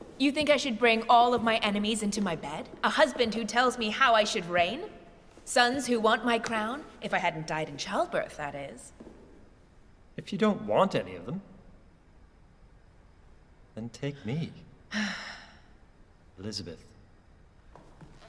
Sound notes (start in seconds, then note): 14.9 Elizabeth sighs